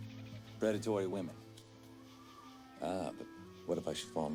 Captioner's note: none